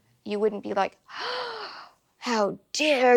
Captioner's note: gasps